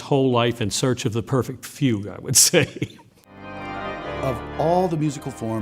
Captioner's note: laughs